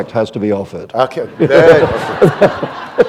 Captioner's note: laughter